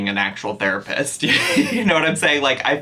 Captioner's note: chuckles